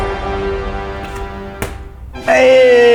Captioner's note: plastic bottle flap sound